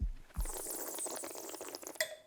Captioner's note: slurps